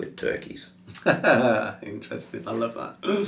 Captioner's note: laughing